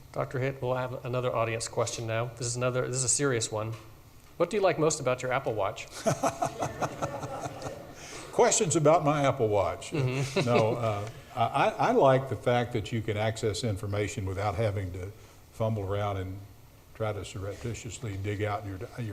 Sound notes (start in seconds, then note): 5.9 laughs; 6.0 audience laughs